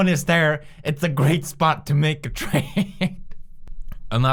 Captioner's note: chuckle